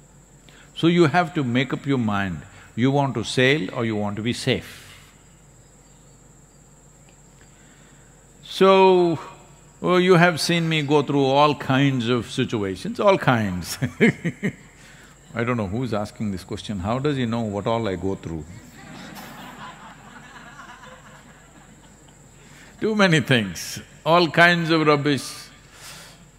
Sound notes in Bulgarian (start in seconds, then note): 13.7 Смее се; 21.5 Смях